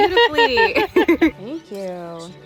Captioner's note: both laughing